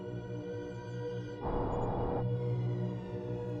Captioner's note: wind blowing